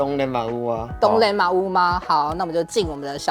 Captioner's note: Taiwanese